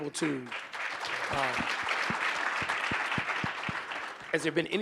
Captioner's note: audience applauding